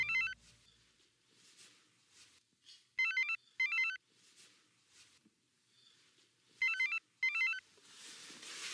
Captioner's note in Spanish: Suena el celular